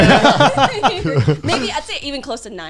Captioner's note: laughing